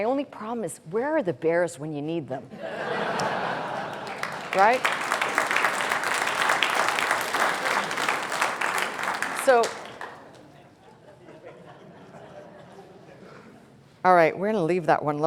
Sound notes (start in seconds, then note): 2.5 laughter; 7.1 applause